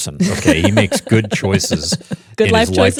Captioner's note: laughs